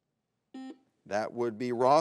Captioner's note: button blips